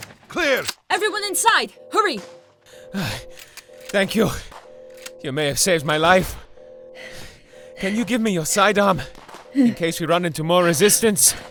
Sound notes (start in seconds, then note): 0.6 gun clicks; 6.4 panting